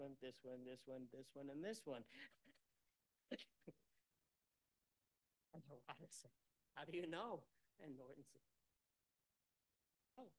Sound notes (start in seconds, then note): 3.3 laughter